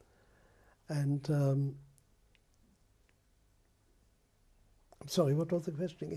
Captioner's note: pauses for 3 seconds